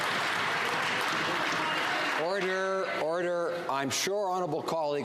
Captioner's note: some Applause